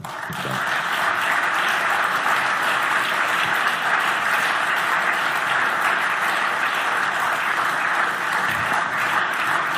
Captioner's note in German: Beifall